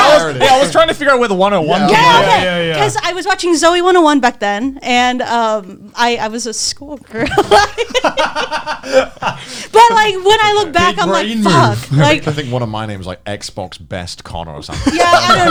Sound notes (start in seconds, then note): 7.1 laughs